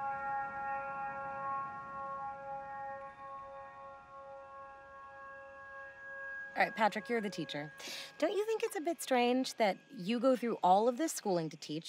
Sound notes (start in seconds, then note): none